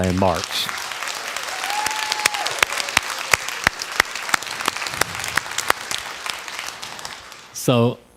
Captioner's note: crowd applause